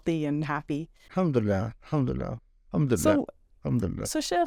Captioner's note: speaking Arabic